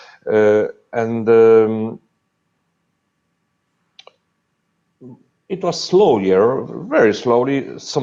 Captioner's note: pause